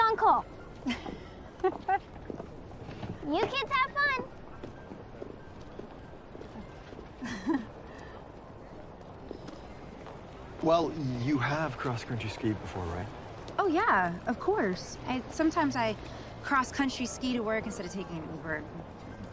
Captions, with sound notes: (laughing) You kids have fun. (chuckling) Well, you have cross-country skied before, right? Oh, yeah, of course. Sometimes I cross-country ski toto work instead of taking Ub.